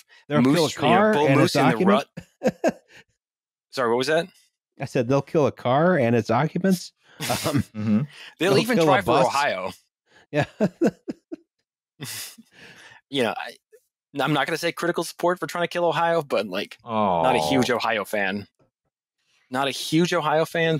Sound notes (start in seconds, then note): 10.4 laughs